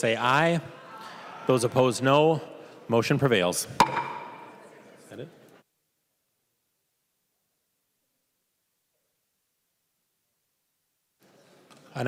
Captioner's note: chorus of ayes; gavel